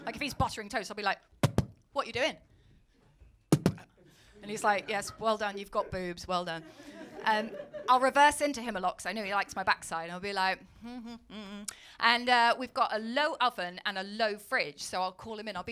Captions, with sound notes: Like if he’s buttering toast, I’ll be like... [KNOCK KNOCK] ‘What are you doing?’ [KNOCK KNOCK] And he’s like, ‘Yes, well done, you’ve got boobs.' 'Well done.’ I’ll reverse into him a lot, because I know he likes my backside. I’ll be like... [TUNEFUL HUMMING]. And we’ve got a low oven and a low fridge, so I’ll call him in.